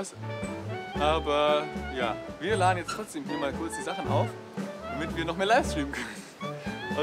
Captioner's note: laughs